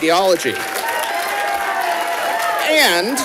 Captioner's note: audience applauding